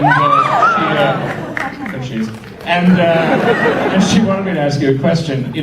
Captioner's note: audience applauds and screams